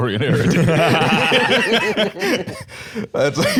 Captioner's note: all laughing